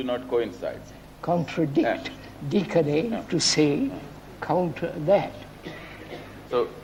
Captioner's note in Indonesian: Latin